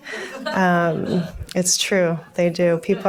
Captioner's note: audience laughs